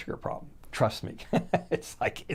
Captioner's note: chuckles